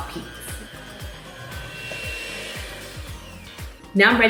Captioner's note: mixer whirring